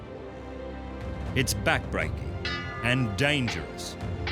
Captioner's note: clangoring